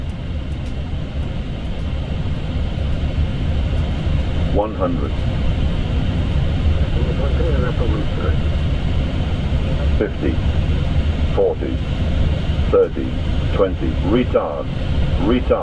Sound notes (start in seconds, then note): 7.0 radio chatter